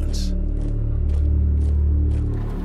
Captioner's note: troops marching; cars rumbling